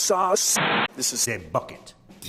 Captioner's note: static